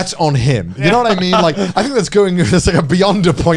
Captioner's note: chuckling